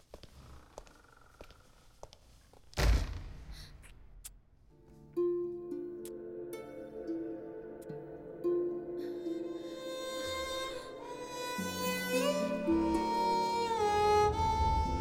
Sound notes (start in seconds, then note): 2.8 door shuts; 4.8 kissing